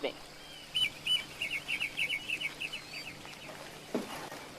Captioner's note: birds chirping